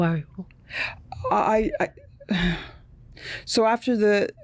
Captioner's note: stammering